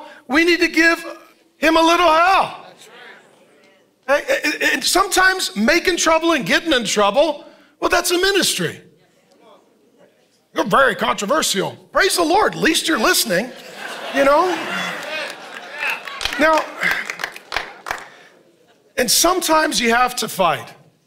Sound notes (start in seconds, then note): 12.5 congregation laughing; 15.5 congregation applauding